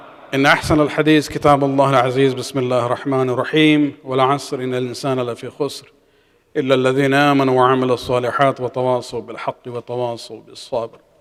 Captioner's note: arabic